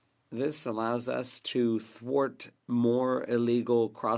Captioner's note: speaking French